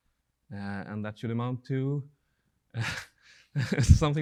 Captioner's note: laughing